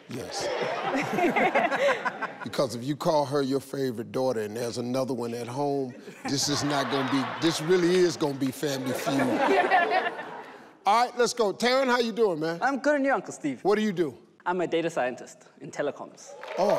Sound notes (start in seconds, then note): 0.1 people laughing; 10.1 people laughing; 16.3 people applauding